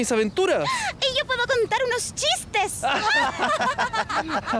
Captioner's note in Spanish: Todos ríen